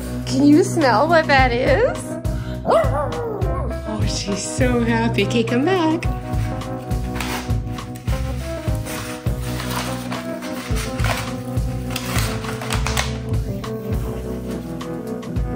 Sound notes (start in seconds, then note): 2.6 dog howling